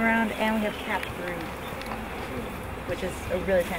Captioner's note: bees buzzing